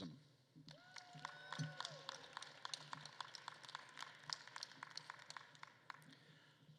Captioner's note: attendees cheering and applauding